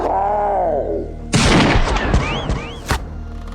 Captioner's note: gunshot